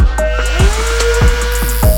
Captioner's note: electric drill buzzing; bicycle wheel clicking